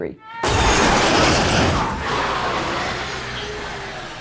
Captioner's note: car crashing